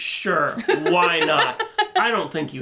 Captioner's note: chuckles